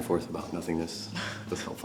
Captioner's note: laughs